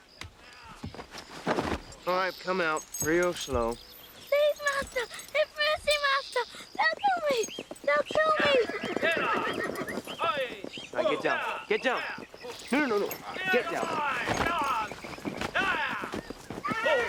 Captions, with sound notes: All right, come out, real slow. - Please, master, have mercy, master, they'll kill me! They'll kill me! (men shouting) - All right, get down, get down! No, no, no, get down!